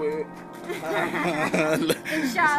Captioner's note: laughter